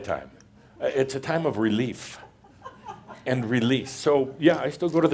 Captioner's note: a couple of more chuckles